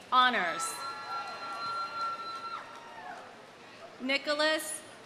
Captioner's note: audience cheering; audience applauding